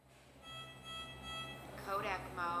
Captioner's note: alarm beeping